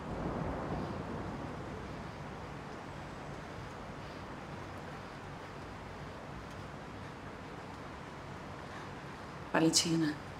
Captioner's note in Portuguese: valentina respirando tensa